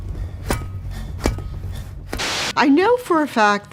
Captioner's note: hammer thuds